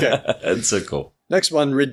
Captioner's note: laughs